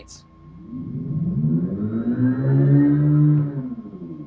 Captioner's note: simulated engine noise